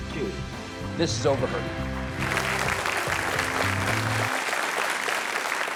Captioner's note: audience claps